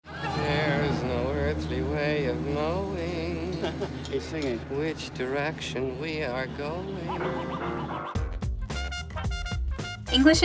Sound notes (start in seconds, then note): 3.4 chuckles; 7.1 upbeat music